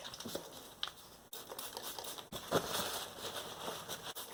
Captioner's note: spray bottle noises; paper towel wiping